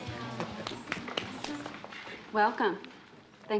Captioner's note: clapping